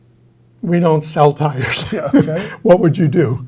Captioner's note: chuckles